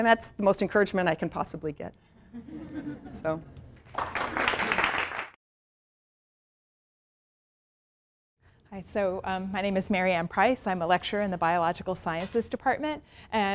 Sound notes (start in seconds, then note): 2.2 audience laughs; 3.8 audience applauds